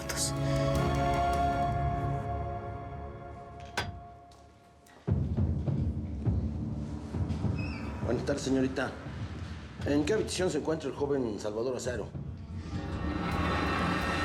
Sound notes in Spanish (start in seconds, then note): 3.6 ruido al entrar